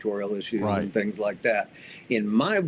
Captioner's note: pat